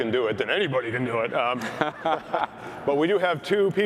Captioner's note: laughter